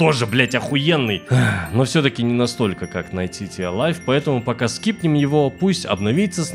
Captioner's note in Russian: вздох